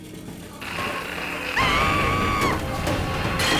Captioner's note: TV static hisses; Gage screams; sharp dramatic music